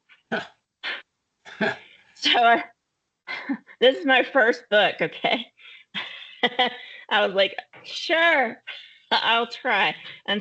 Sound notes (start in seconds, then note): 1.5 laughing; 5.5 chuckling